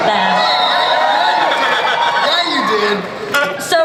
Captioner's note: audience cheers